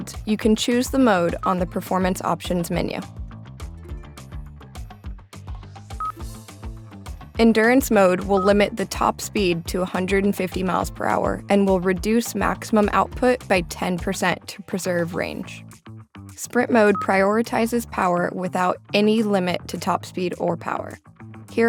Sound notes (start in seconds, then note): 3.2 upbeat music; 6.0 system beeping